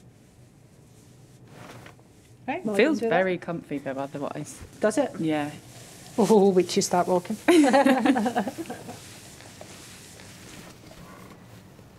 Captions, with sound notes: It feels very comfy though, otherwise. Does it? Yeah. Oooh, wait till you start walking. - [They laugh]